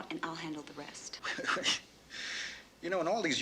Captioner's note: chuckles confusingly